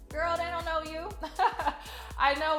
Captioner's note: laughing